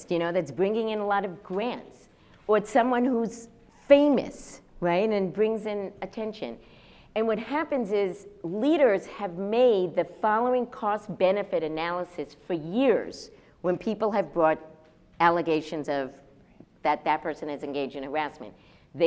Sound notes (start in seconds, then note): none